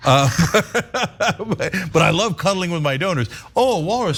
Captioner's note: laugh